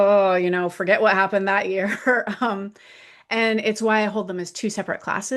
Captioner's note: laughs